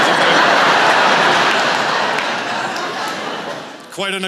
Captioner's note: laughter